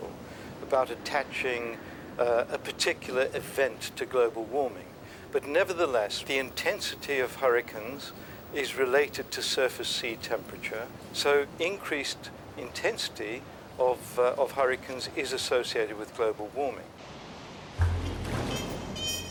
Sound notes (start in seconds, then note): 17.7 water crashing; 17.8 soft jazz music